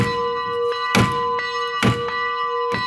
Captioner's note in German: Hämmern; Kirchenglocken